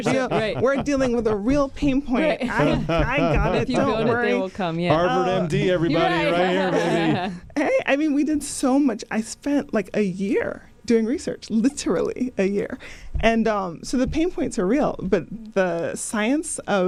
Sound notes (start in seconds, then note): 2.5 laughter; 6.3 laughter